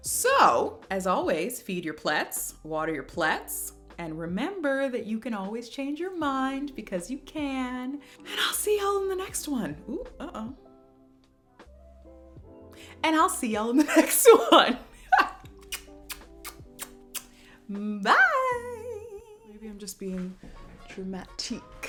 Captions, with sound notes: So, as always, feed your plets, water your plets, and remember that you can always change your mind! Because you can! And I'll see y'all in the next one! Oh-oh! And I'll see y'all in the next one! [ Kisses ] Bye! Maybe I'm just being dramatique.